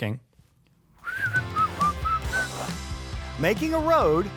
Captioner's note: whistling; upbeat music; whimsical music